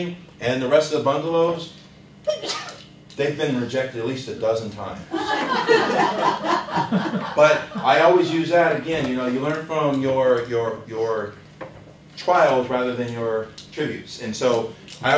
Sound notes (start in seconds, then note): 5.1 laughter